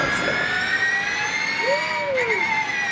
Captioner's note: car whirring